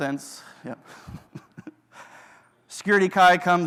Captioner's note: laughs